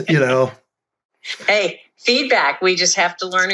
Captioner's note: laughs